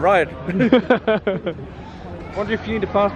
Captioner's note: laughing